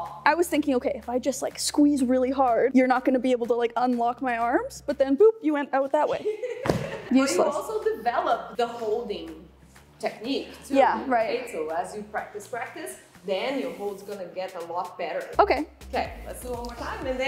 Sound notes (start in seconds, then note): 6.2 chuckles